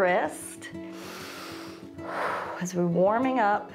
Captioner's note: inhales and exhales